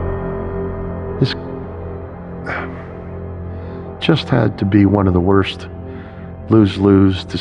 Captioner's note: sigighing